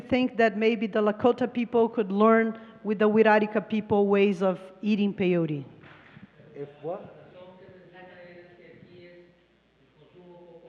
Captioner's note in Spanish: Traductora habla en inglés